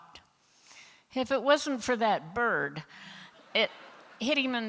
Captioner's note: laughter